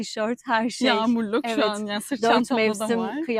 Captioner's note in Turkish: kahkaha